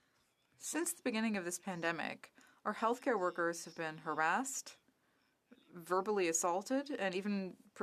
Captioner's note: speaking French